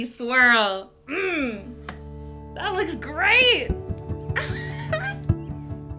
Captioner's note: laughing; delicate music